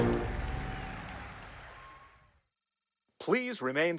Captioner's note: applause, cheering